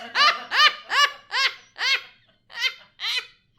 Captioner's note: laughs